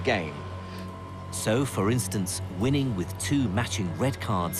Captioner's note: voiceover